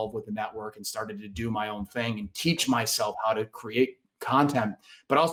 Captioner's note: none